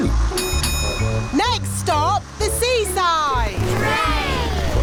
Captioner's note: bell dings